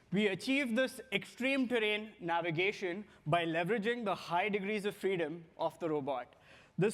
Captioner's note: none